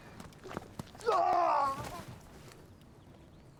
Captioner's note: man screams